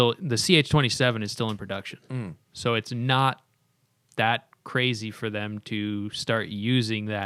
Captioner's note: hmmm